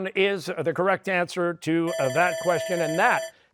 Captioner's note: bell rings